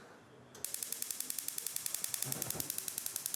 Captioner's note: ignition clicks